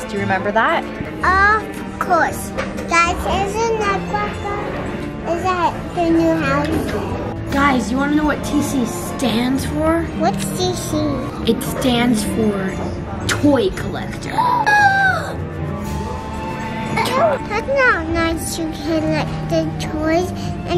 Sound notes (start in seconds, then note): 14.5 gasps